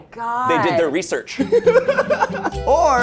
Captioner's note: laughs